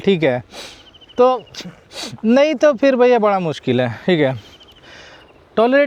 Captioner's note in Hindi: नाक से की जाने वाली आवाज़